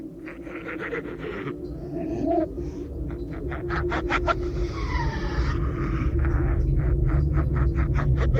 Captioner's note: diabolical laughter; eerie hollow sound